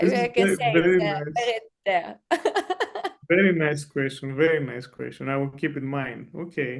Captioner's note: laughs